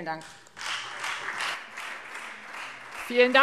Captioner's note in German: Beifall Freie Demokraten